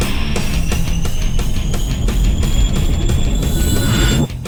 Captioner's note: wind whooshing